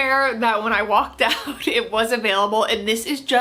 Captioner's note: chuckling